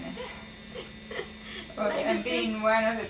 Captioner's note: chuckles